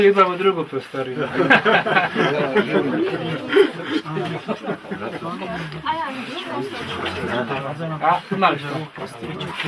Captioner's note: laughter